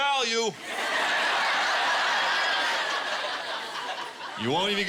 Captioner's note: laughter